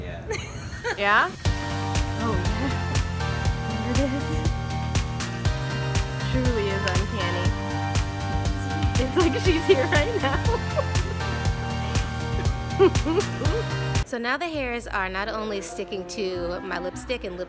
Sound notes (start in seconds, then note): 13.0 laughs